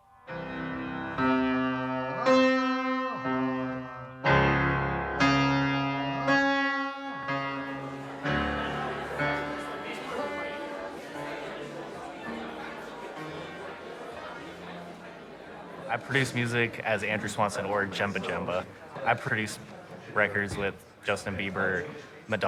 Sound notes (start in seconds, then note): 0.2 vocalizing along to piano notes; 8.7 indistinct chatter